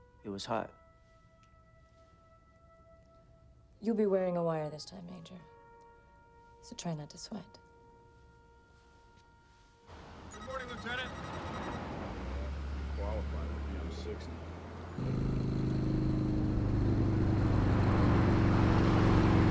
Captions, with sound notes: It was hot. - You'll be wearing a wire this time, Major. So try not to sweat. - Good morning, Lieutenant. (text beeping) (motorbike rumbling)